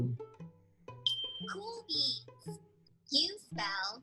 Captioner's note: stars tinkling